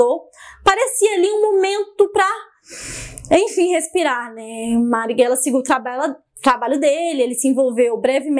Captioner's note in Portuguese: suspiro